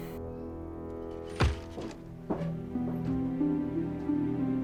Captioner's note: footsteps